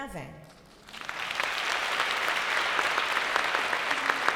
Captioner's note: applause